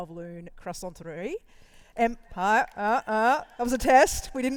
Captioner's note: applause